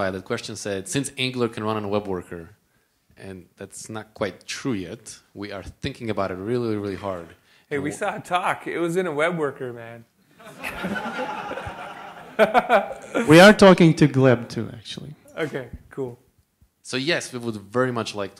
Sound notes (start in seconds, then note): 10.4 laughter